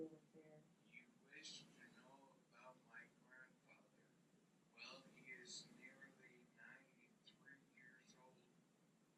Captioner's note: recording playing